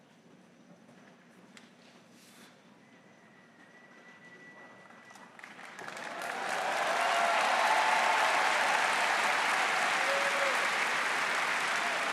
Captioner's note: applause